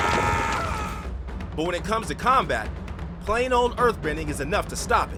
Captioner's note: screaming